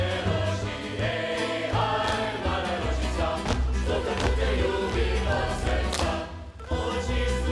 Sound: choir singing; feet stomping

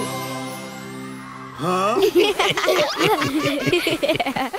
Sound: laughing

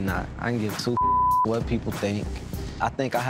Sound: beep

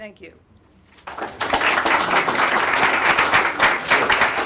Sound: applause

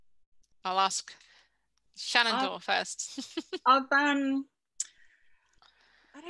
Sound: chuckles

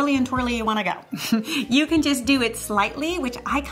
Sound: chuckles

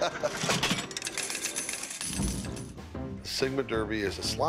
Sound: chuckling; slot machine lever pulling, followed by coins falling

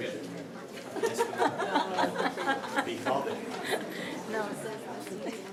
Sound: indistinct conversation

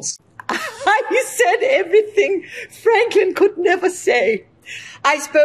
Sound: laughing

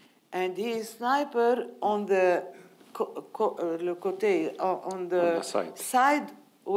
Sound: speaking in foreign language

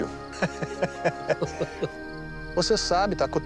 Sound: laughter

